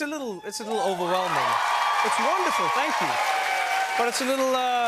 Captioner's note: cheers and applause